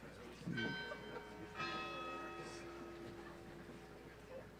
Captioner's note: bell chiming